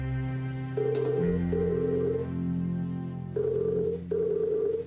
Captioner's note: phone ringing